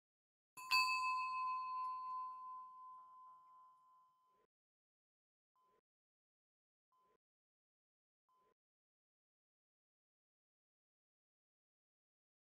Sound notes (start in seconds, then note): 0.6 bell dinging